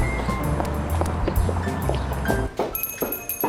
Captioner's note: footsteps; doorbell jingles